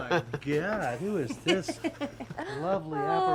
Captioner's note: chuckles